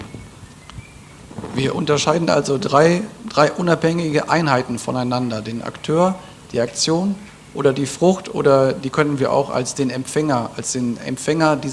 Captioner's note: German